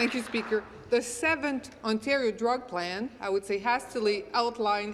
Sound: applause

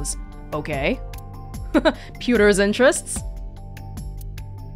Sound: chuckles

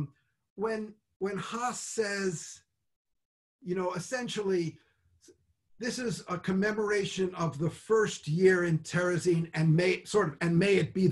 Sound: speaks Hebrew

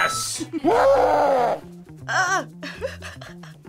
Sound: demon growls; laughs

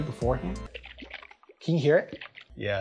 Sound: coconut water shaking

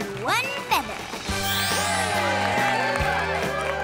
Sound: cheering

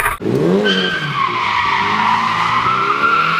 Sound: More dirty SR20 noise and tire screech

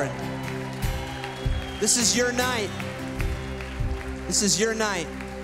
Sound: applause

